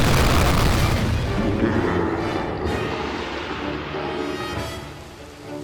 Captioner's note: pitched down laugh